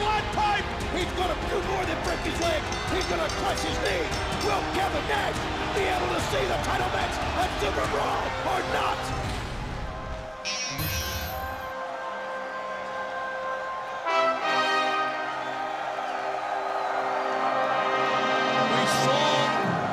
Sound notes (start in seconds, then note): 10.3 crowd chatter; 11.5 crowd cheering